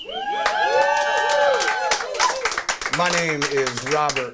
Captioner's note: crowd cheers